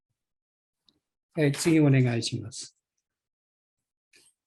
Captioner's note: speaking japanese